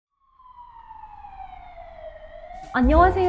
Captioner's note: ambulance siren wailing